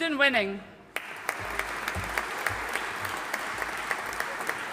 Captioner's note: audience applauding